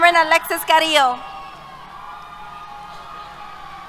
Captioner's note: cheers